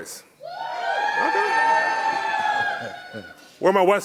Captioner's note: audience cheering